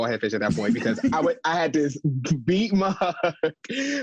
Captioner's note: laughs